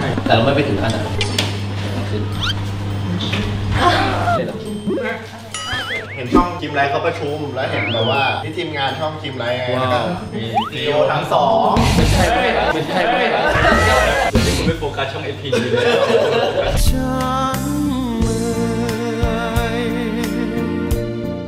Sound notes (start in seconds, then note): 3.7 sighs; 13.5 laughs; 16.9 sad music playing